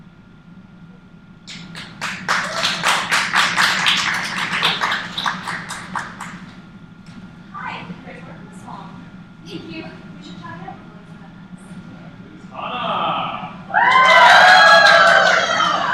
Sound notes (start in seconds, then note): 1.4 applause; 12.6 cheers; 15.2 chanting